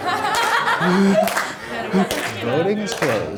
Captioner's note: voiceover; audience laughter